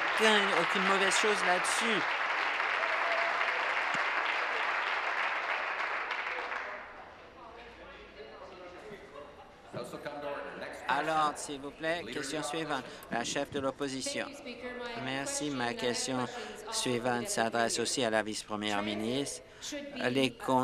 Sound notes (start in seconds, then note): 0.0 applause